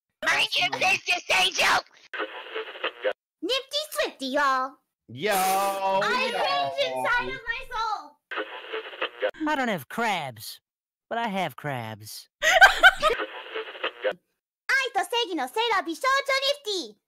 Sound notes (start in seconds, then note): 2.1 radio tuning noise; 8.4 radio tuning noise; 12.9 radio tuning noise; 14.8 nifty noises